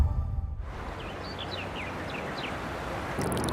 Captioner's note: birdsong; water trickling